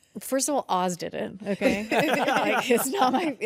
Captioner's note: hosts laugh